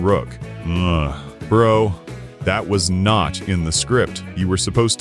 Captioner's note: groan